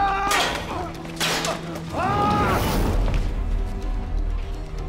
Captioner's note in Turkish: Haykırma sesi; Kılıç sesleri